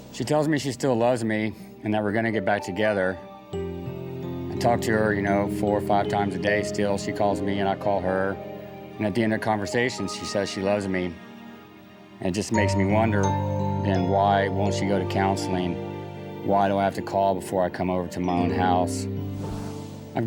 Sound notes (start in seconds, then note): none